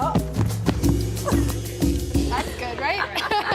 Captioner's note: rustling; laughing